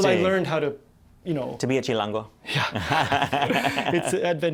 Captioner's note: laughter